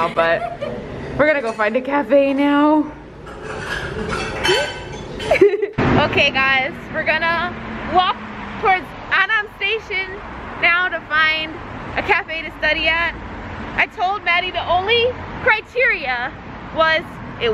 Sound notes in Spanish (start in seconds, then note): 3.2 los platos hacen ruido; 5.2 las chicas se ríen